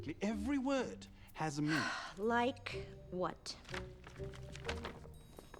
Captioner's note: sighs